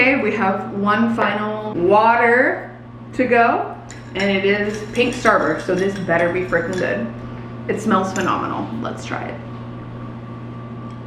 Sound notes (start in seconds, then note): none